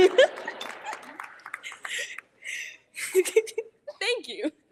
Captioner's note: all chuckle; audience applauding